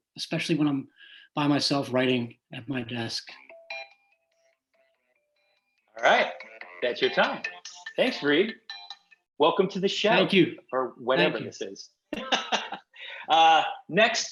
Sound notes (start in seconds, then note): 3.4 Cory's phone chiming; 12.1 laughs